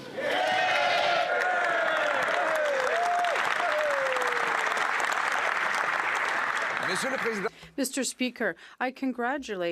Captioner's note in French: voix de l'interprète